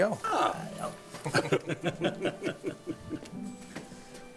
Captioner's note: laughing